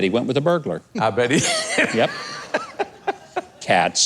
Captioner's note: laughing